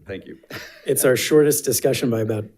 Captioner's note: board Members laughs